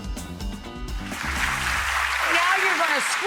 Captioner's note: clapping